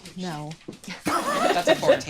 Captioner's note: laughing